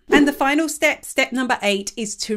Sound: image whooshes

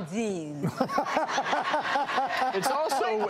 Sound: laughter

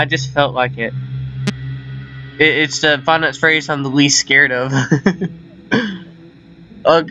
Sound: chuckles

